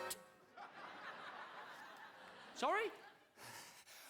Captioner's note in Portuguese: audience laughing